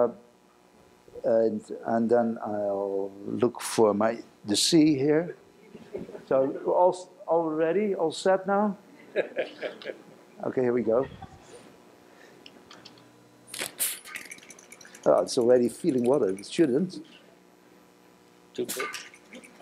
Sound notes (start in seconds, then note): 9.0 laughter; 13.5 mechanical clicking